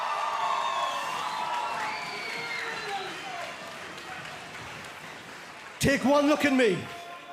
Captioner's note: cheering